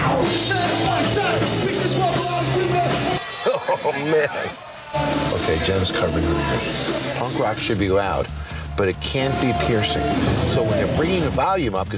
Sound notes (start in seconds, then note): 0.0 band playing; 3.0 laughing